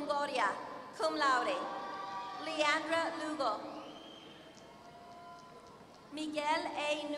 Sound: applause

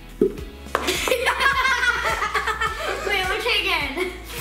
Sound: laughing

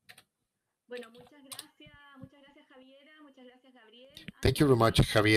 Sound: speaking foreign language

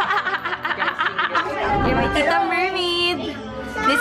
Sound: laughs

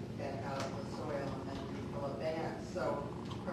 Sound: speaking off microphone

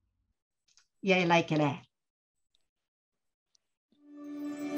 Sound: speaking japanese

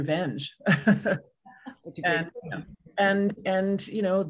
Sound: laughing

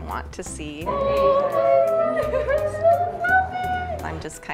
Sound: cooing

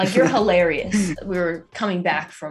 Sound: laughing

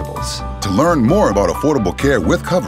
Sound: voiceover

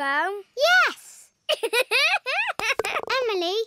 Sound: giggling

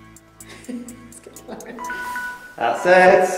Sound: alarm noise

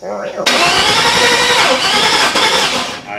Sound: engine turns over

